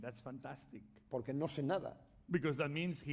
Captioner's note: speaking spanish